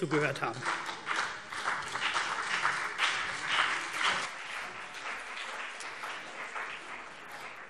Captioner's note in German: Beifall CDU und vereinzelt BÜNDNIS 90/DIE GRÜNEN